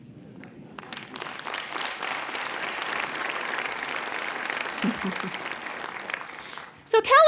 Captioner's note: clapping